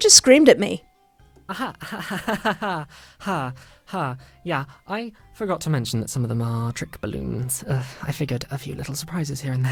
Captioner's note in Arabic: ضحك عصبي